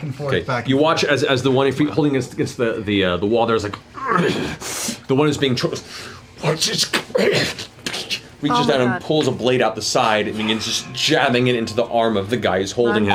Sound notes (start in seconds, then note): 4.3 strained grunt; 6.9 choking